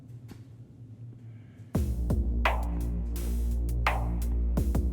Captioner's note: footsteps approaching